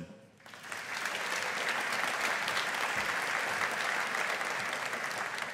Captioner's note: audience applauding